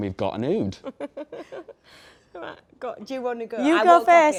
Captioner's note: Mandip laughs